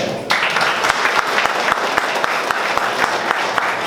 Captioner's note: applause